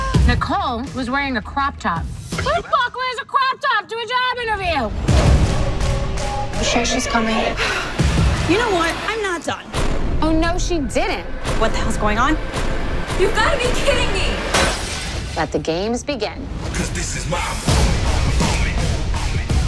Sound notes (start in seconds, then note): 5.9 bethenny yelling; 7.4 sighs; 14.4 smashing